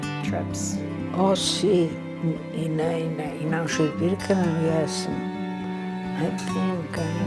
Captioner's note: speaking in foreign language